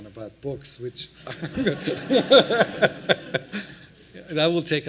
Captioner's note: laughter